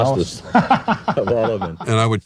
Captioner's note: anchor laughing